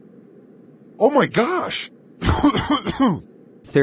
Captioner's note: coughs hard